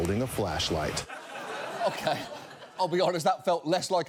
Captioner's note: audience laughs